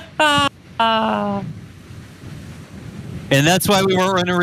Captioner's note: laugh